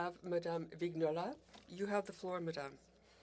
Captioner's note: speaking French